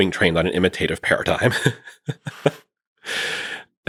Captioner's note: laughing